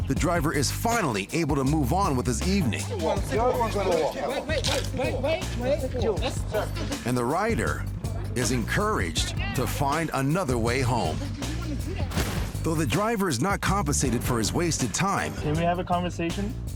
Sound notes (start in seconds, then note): 2.8 overlapping chatter; 6.0 indistinct chatter